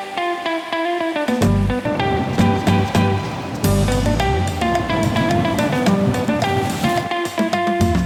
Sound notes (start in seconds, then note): 2.1 waves and water rumbling